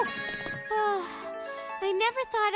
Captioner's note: sighs